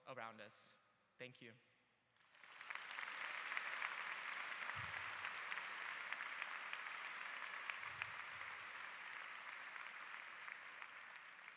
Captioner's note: applause